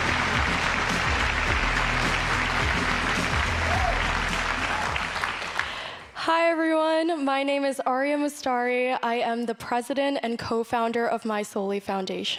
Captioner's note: applause